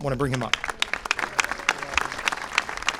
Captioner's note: applause